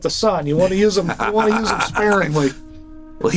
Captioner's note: Gould laughing